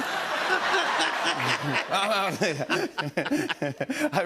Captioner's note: laughter